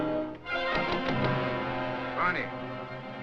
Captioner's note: knocking on door